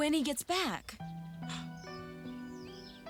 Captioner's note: gasps